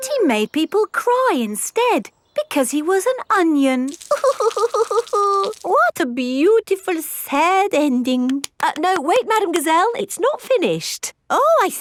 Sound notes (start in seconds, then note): 4.4 crying